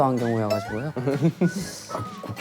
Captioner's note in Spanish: Con desconfianza